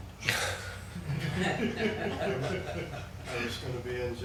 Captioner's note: people laughing